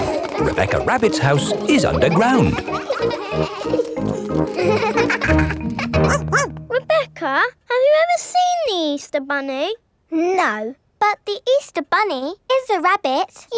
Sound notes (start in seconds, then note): 6.0 barks